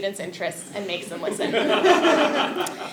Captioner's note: laugh